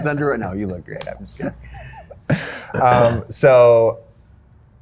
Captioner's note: laughing